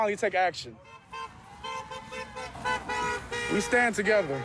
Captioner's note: horns honking